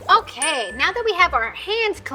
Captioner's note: water trickling; bell dings